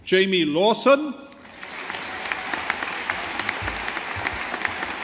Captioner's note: audience applauding